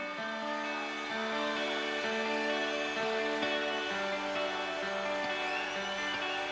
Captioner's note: audience cheering; light music continues